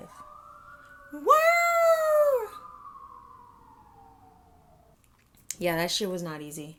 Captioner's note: mimicking sound of sirens outside